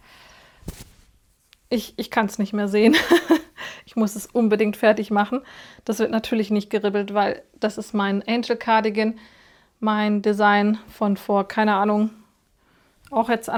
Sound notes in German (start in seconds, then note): 2.8 gelächter